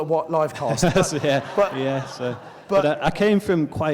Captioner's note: laughs